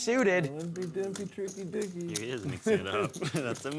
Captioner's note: crowd mumbling